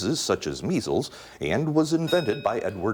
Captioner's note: bell dings